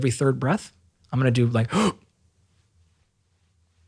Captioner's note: gasping